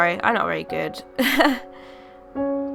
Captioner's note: laughing